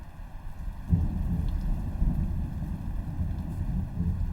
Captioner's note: thunder rumbling